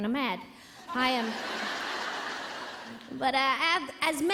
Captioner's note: audience laughing